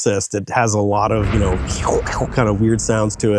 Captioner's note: imitates rumbling